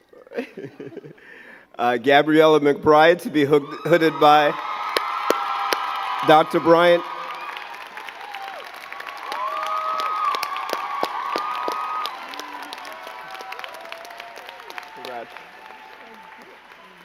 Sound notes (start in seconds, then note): 0.2 both giggling; 8.1 crowd cheering and clapping